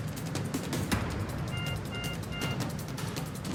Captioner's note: beeping